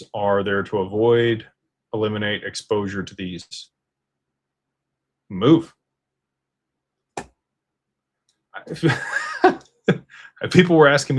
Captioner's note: laughter